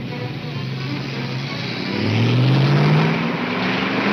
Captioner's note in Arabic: موسيقى الأوركسترا الدرامية; محرك يدور